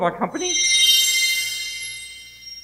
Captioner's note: windchimes